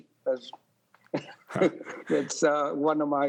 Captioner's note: laughs